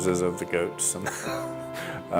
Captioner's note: laughs